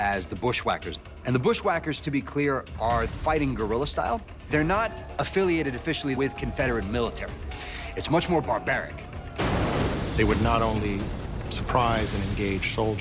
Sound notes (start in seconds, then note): 9.2 explosion booming